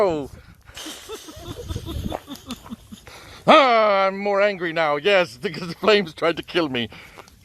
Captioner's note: laughs